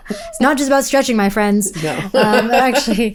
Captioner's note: laughs